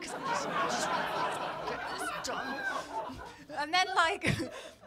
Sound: laughter

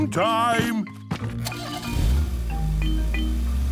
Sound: engine starting

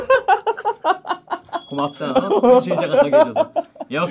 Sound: haha

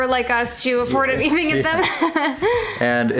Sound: laughs

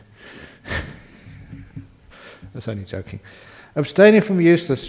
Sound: Ajahn laughs

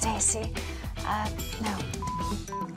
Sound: beep

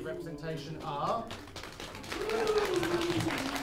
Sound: applause

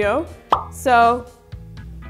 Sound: bubble pops

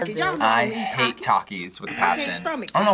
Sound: buzzer

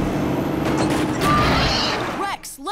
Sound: squawking

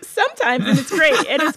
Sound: laughter

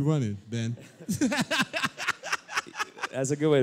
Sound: laughter

